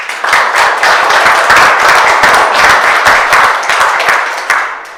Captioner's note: audience applauding